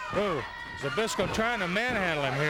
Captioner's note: body thudding